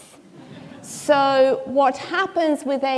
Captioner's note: audience laughing